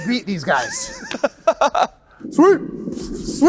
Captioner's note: laughs